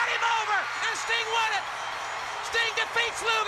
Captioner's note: bell rings